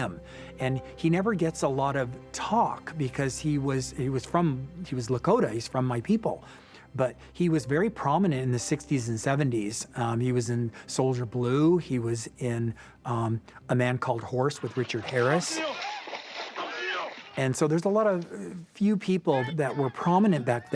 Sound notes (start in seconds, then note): 14.6 water splashing